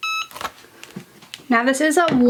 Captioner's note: press beeps